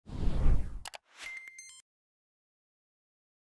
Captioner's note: whooshing